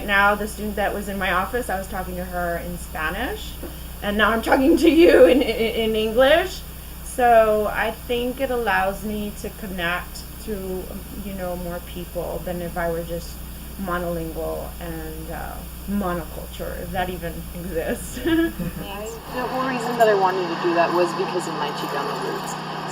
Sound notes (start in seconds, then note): 17.8 laughs